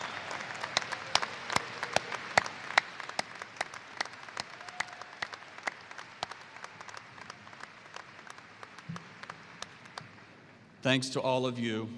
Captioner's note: applause